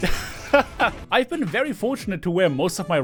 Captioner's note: laughter